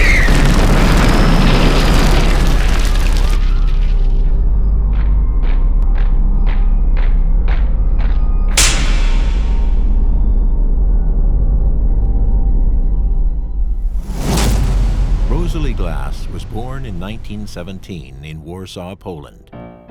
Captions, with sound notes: (marching footsteps pattering) Rosalee Glass was born in 1917 in Warsaw, Poland.